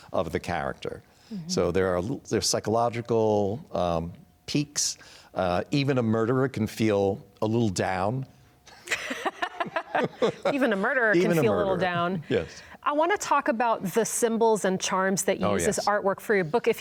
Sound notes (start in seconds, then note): 8.7 laughs